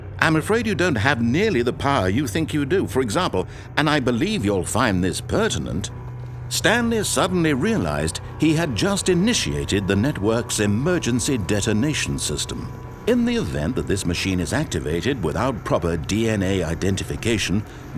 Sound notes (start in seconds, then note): none